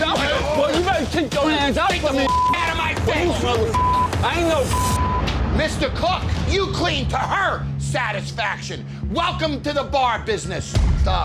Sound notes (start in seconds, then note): 2.2 beep; 4.6 beep